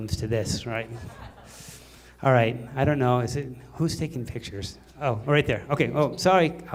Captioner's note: laughter